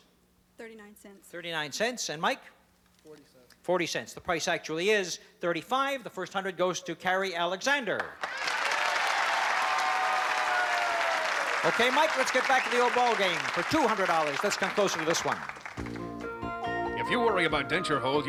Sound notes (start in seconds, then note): 8.0 applause